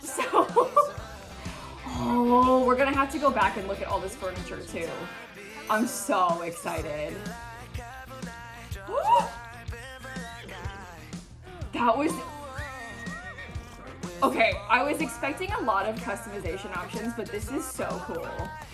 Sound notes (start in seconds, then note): 8.3 gasps